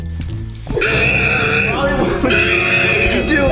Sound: muffled scream

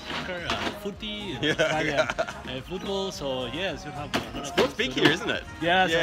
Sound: laughing

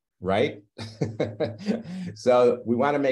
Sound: laughs

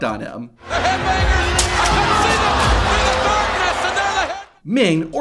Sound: group cheering

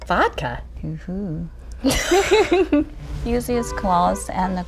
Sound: laughs

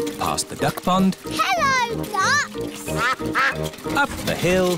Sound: quacking

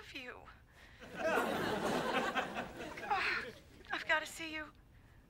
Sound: audience laughing

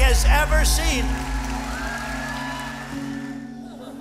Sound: applause

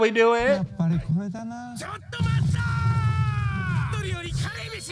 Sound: japanese Screaming

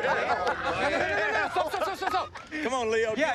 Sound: laughter

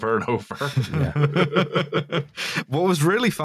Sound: laughter

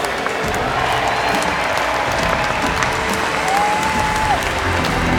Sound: crowd cheering

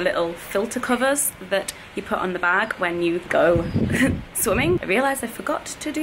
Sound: laughs

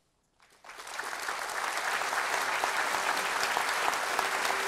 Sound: applause

